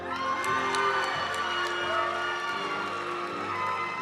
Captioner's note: audience cheering and applauding; graduation music